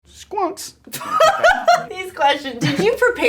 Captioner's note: Elle laughing